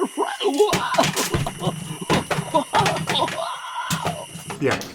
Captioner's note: more falling noises